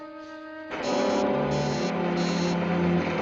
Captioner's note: buzzing